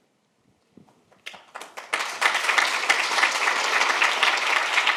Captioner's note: audience applauds